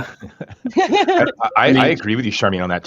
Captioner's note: group laughing